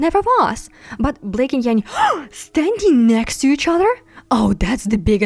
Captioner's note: gasp